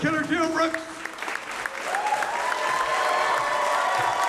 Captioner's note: applause